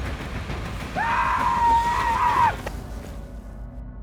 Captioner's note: seminole war cries